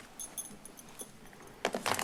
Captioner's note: rustles